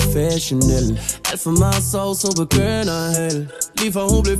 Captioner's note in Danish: brr